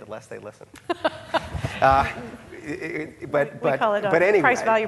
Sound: laughing

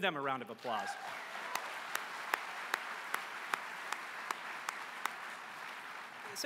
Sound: applause

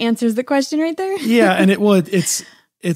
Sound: laughs

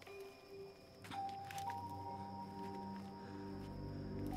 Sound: twigs snapping underneath

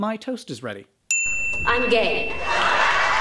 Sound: Lesbian ding

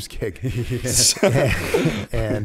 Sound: laughter

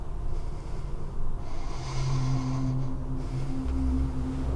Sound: sighing

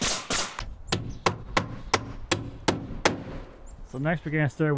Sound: hammer banging loudly

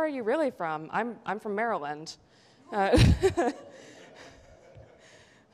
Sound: laughs

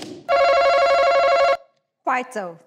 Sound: buzzing

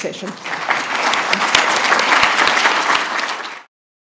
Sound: applause

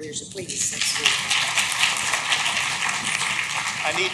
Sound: clapping

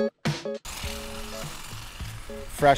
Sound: trimmer cutting

